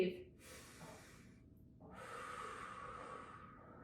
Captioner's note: breathing deeply